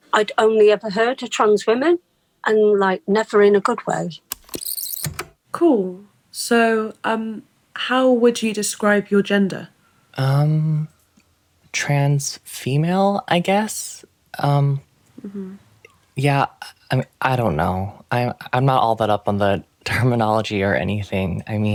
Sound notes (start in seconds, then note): 4.3 the tape whirrs fast forwarding and then plays